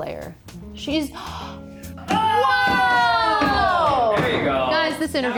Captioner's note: gasp